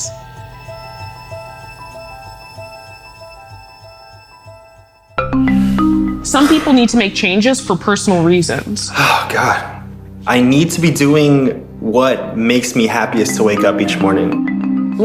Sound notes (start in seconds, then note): 0.2 reflective music; 9.3 sighs